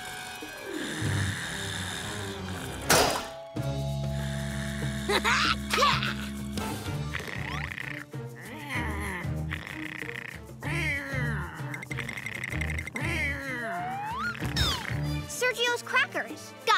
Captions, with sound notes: [laughs] Yeah! [snoring] Sergio's crackers. Got it.